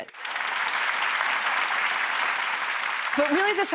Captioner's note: applause